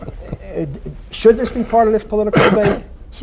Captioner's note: laughter